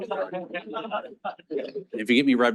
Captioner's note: audience laughs